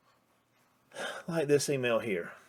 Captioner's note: sighs